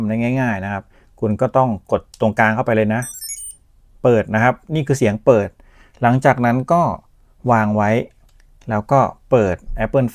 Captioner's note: this is the power-on sound